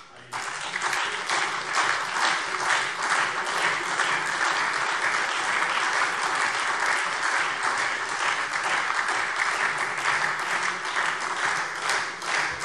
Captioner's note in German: Lang anhaltender Beifall SPD und Freie Demokraten